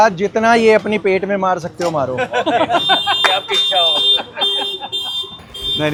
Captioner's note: laughs